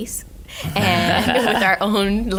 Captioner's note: laughing